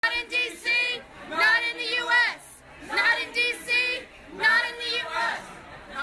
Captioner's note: chanting